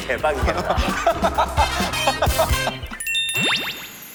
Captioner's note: haha